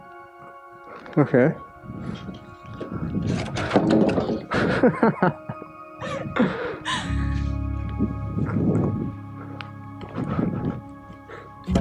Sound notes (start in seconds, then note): 4.5 laughing